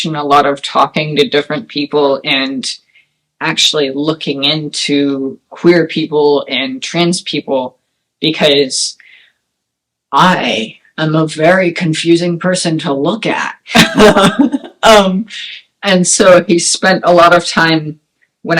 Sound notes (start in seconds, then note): 13.8 laugh